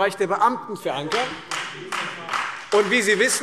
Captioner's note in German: Beifall